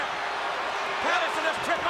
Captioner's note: audience jeers